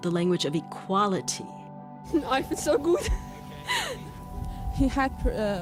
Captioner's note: laughter; soundbite of archived recording